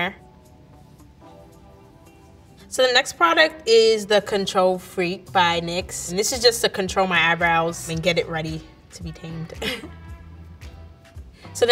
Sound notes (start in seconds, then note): 0.1 gentle music; 9.4 laughs; 9.8 gentle music